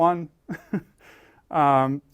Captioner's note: laugh